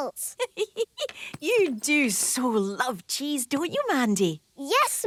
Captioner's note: giggling